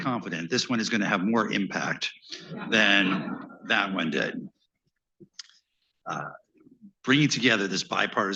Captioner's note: laughter